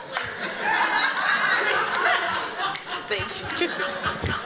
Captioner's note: laughter